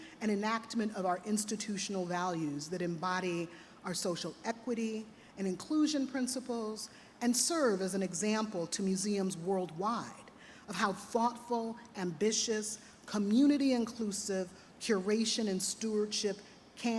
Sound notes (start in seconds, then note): none